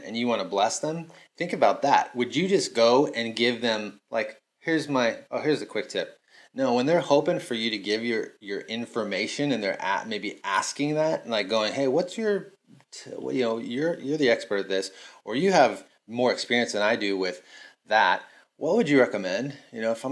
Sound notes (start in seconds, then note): none